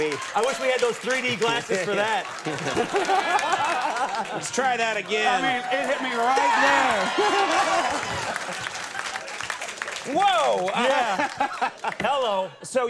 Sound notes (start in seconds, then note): 0.0 Johnny and the audience laughs; 6.9 audience laughs and applauds